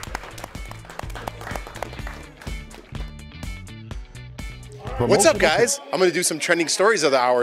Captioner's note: applause